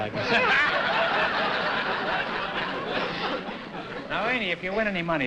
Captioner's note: laughter